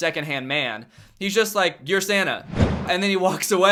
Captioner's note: whoosh